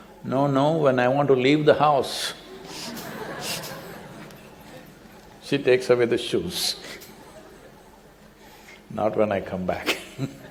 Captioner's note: laughter